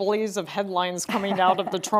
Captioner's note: laughing